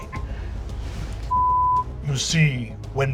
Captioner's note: beeping